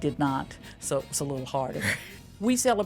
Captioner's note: chuckles